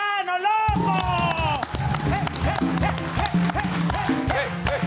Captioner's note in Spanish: Aplausos